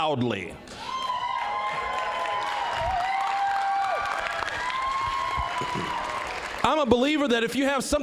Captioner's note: applause, cheering